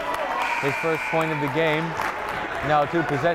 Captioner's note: buzzer blaring